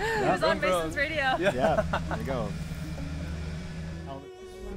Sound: participant laughing

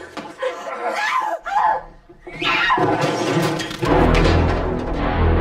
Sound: grunting; grunts

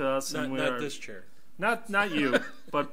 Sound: laughs

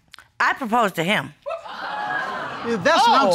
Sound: audience exclaiming

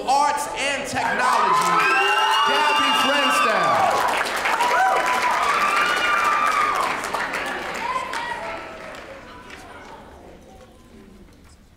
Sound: applause

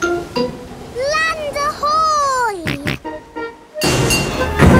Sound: snorts

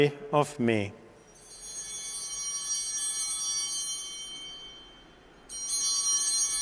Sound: bell ringing

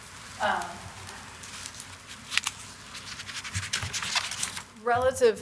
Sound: paper rustling

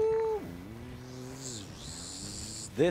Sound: slide noises

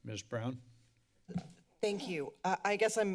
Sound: mic thump

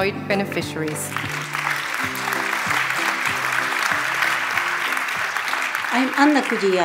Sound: applause

